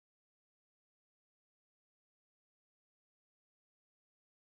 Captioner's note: none